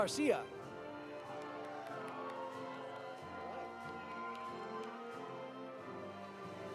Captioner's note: audience applauding; audience cheering